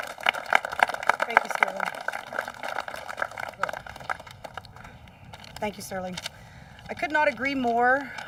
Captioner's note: applause